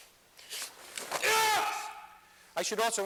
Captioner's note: shouts